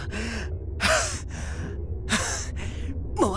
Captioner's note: huff; pant